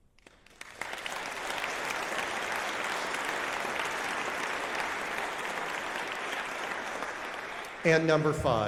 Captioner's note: applause